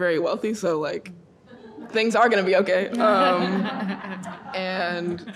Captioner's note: audience laughing